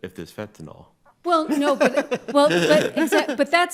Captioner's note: justices laugh